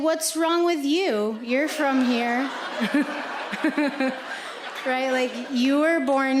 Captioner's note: audience laughing